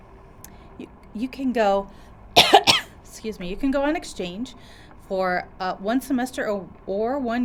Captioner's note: cough